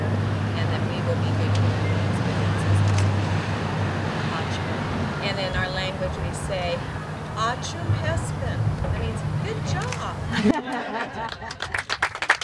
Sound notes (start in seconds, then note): 10.4 foreign language; 11.2 clapping